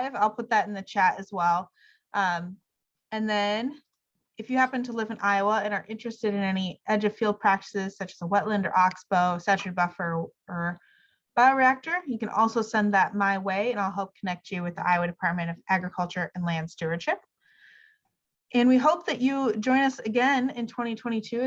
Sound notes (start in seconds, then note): none